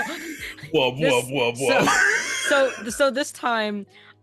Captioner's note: all laughing